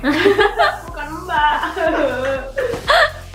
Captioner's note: laugh